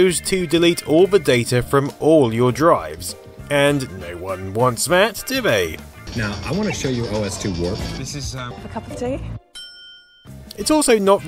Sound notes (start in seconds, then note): 9.5 ding!